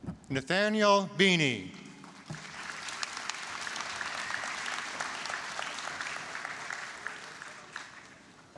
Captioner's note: applause